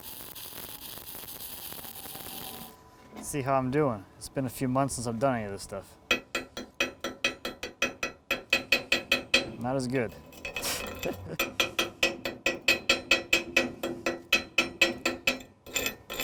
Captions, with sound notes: (sparking) Let's see how I'm doing, it's been a few months since I've done any of this stuff. (clanking) Not as good (laughing). (clanking)